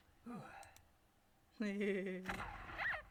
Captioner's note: chuckle